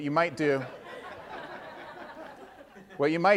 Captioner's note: audience laughing